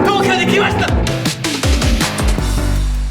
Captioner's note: missed the beat while roaring